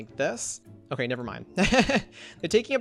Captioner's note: laughs